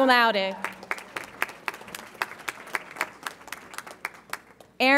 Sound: audience applauds

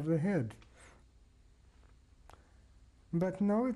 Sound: pauses for 3 seconds

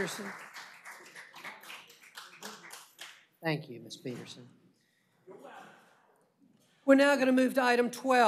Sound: applause

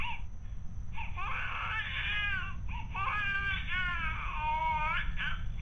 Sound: baby crying over monitor

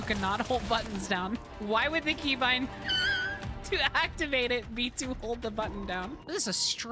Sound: wheeze

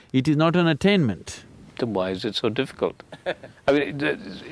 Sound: Sadhguru laughs

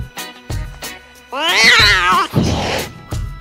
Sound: tabby and white Cat Meowing Hissing

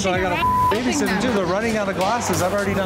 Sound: beep

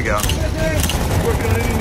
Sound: camera snaps

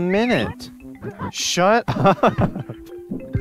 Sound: chuckles

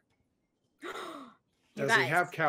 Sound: gasping

